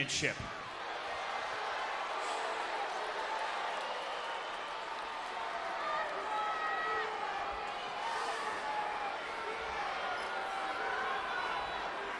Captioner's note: applause